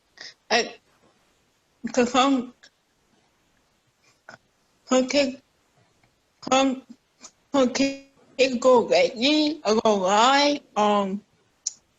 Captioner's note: unstable audio